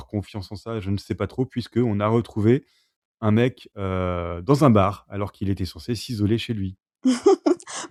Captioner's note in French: rires